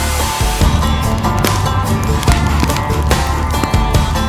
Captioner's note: upbeat country music; fire crackles